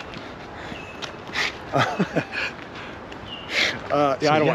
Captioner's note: Paul laughs